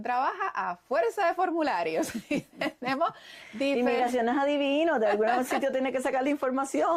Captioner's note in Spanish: risas; risas